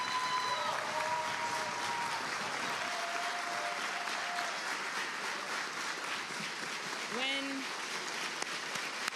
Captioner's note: applause